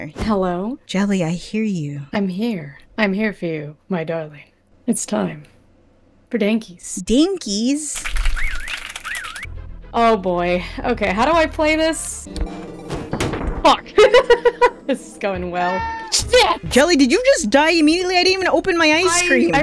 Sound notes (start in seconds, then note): 8.6 clapping; 13.9 laugh